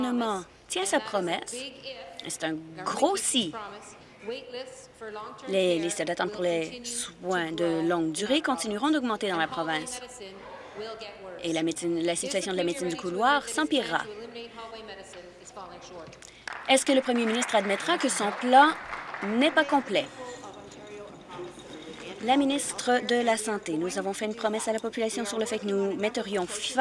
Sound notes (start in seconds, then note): 20.8 applause